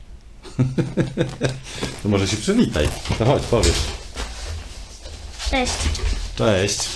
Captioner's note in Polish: śmiech